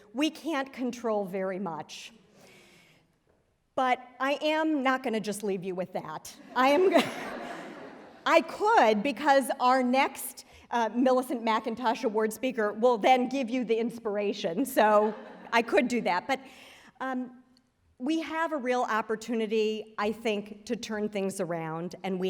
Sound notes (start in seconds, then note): 6.4 laughter